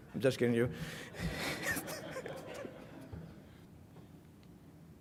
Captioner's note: laughter